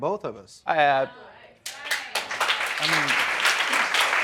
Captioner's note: applause